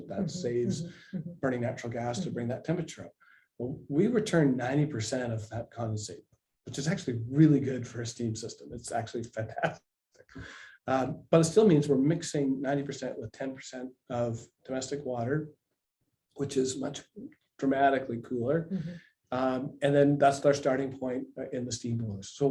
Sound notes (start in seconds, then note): 9.7 laughs